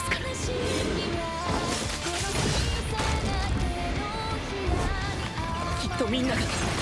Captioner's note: sounds of battle